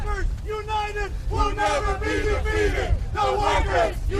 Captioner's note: chanting